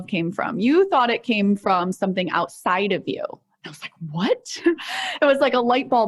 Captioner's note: chuckles